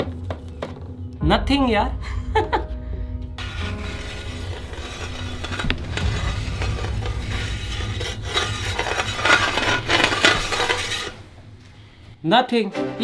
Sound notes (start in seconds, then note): 0.0 scratching by metal; 2.2 laughing; 3.3 scratching by metal